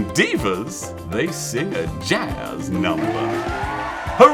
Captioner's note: audience cheering